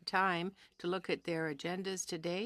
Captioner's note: speaking French